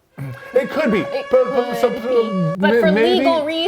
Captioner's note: alarm blaring